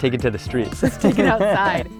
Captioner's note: laughs